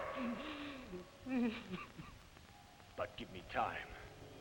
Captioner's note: Bruno crying